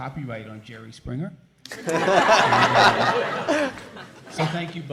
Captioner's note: laughter